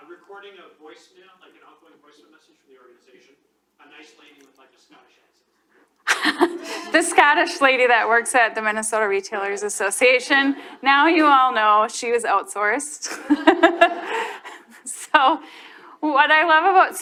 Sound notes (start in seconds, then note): 6.0 laughs; 13.0 laughs